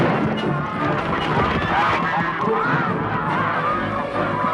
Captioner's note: geese honking